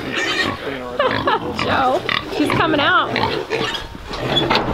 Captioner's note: laughs